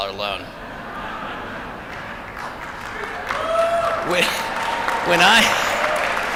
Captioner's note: applause